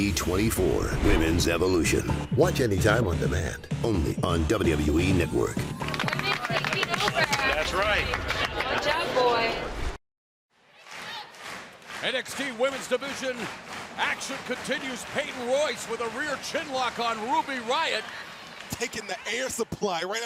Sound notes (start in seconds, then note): 7.5 clapping